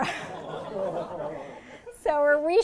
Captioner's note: laughter